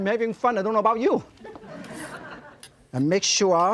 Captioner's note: crowd laughs